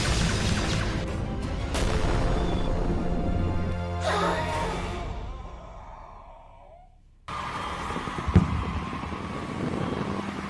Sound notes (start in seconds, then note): 0.1 lasers blasting; 1.6 explosion rumbles; 4.4 Ragtooth laughs; 7.7 group cheers